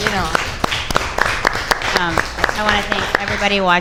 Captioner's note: audience applauds